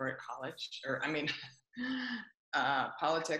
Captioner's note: laughs